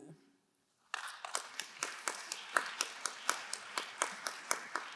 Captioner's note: crowd applauding